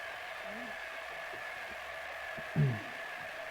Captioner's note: statics